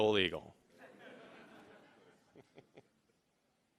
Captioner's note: laughing